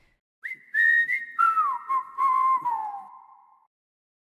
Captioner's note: whistling